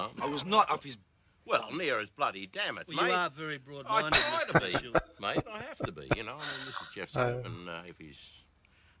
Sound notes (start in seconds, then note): 4.1 laughing